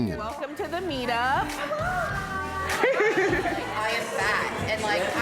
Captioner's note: chattering